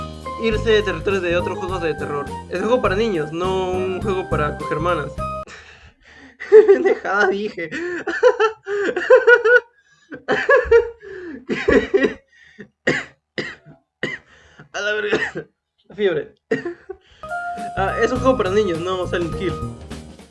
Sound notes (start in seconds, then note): 6.3 laughing in spanish